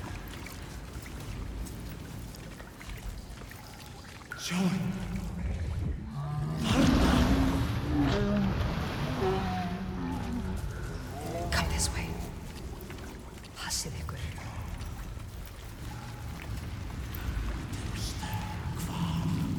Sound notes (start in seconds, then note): 14.4 speaking in foreign language